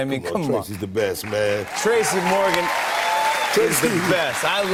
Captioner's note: cheers and applause